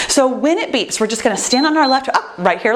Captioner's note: timer beeps